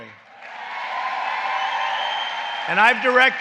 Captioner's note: applause